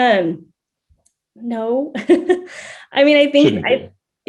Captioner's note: chuckles